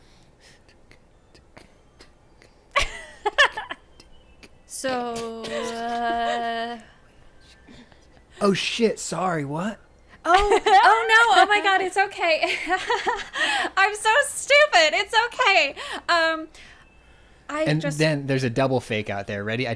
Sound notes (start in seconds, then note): 1.4 keeping beat; 2.7 laughing; 12.9 laughing